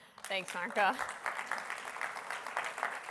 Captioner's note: applause